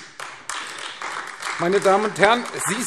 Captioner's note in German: Beifall AfD